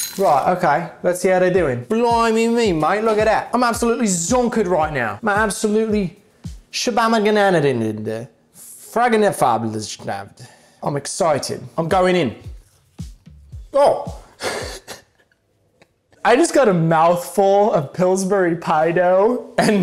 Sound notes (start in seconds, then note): 6.4 speaks in foreign language; 14.4 chuckles happily